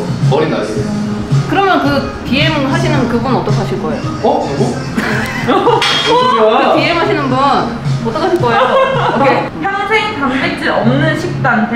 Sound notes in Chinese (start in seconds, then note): 4.4 笑声